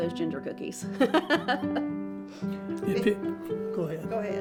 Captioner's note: laughs